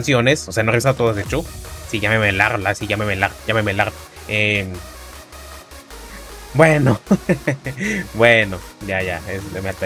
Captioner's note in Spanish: risas